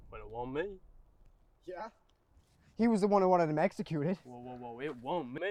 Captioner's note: none